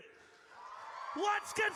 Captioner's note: audience cheers